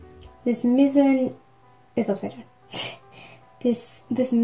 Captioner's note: clears throat